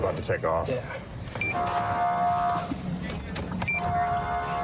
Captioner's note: horn blaring